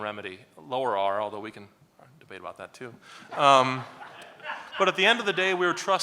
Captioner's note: laughs